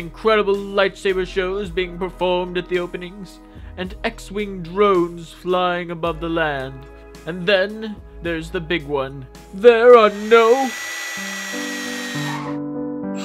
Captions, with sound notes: with incredible lightsaber shows being performed at the openings and X-Wing drones flying above the land. And then... there's the Big One. There are NO.... (droid whirs)